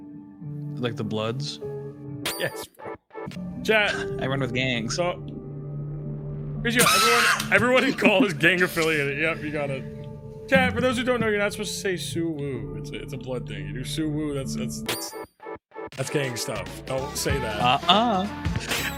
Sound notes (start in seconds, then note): 6.8 laughs